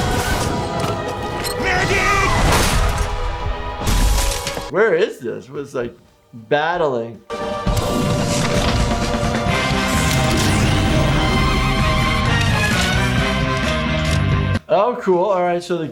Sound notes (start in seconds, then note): 0.1 weapons firing; 2.6 rocket explodes; 7.2 choir music; 10.0 weapon fires; 12.3 rock music